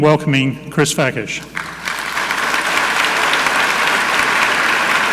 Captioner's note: audience clapping